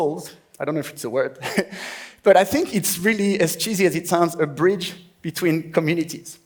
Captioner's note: laughs